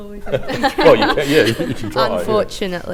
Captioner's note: laughter